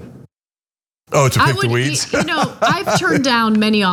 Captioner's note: laugh